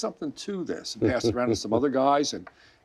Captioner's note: laughing